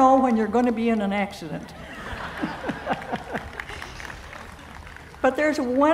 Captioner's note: laughing, applause